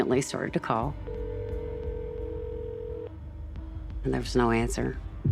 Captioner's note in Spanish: línea sonando